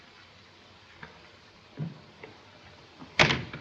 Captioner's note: none